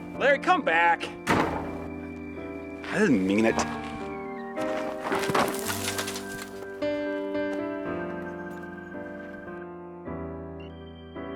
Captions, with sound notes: Larry, come back! (door slams) I didn't mean it. (gentle piano music)